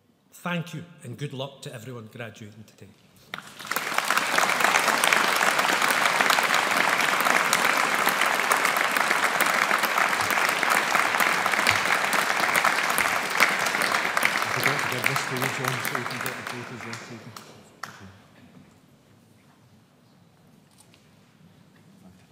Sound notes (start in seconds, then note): 3.5 audience applauds